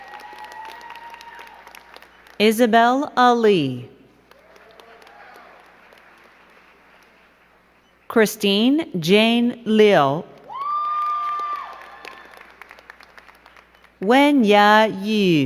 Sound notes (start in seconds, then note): 0.0 crowd clapping and cheering; 4.2 crowd clapping; 10.3 crowd clapping and cheering